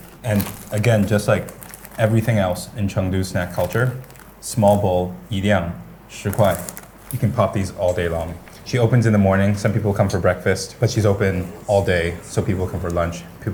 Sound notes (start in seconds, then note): 5.0 foreign language